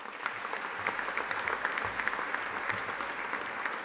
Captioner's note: audience applauding